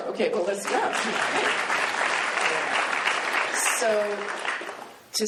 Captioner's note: applause